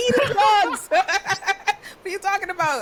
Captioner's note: laughing